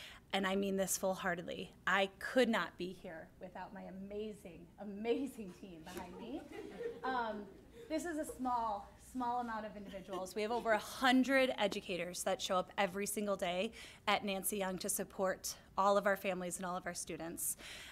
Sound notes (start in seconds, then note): 6.1 laughter